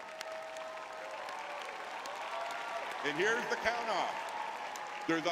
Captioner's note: audience cheering